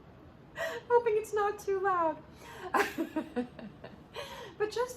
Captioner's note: laughter